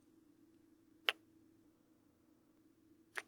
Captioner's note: kiss